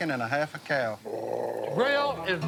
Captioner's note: growls